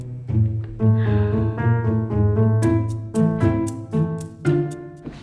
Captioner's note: sighs deeply